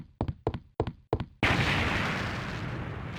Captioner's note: explosion